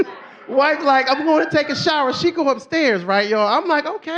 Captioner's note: laughs